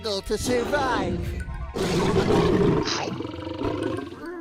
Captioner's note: roaring